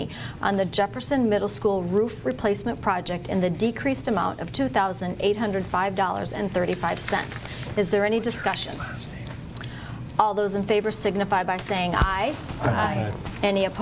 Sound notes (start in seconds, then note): 9.7 whispering